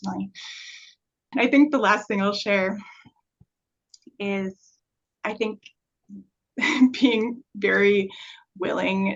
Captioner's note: chuckle